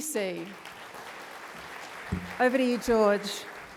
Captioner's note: audience applauding